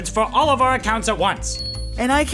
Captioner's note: bell ring